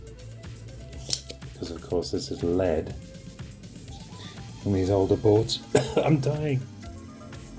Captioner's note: coughs